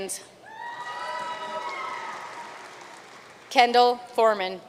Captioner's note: audience cheering and applauding